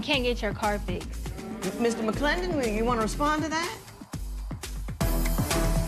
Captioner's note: spectators murmur